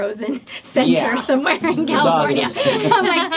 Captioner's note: laughs